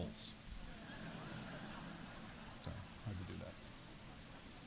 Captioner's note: audience laughing